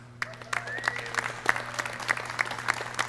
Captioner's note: clapping